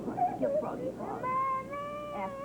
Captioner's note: Marah continues crying